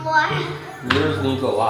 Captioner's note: laughs